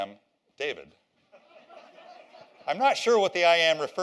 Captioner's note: laughter